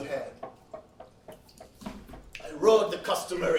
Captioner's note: footsteps pattering